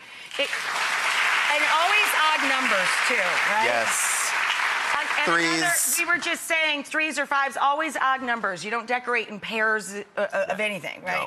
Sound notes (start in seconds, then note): 0.1 audience clapping